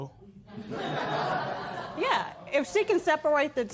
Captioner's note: laughter